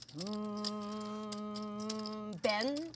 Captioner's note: hums